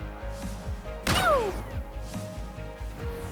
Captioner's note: laser firing